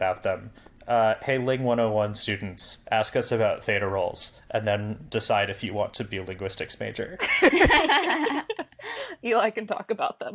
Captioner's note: laugh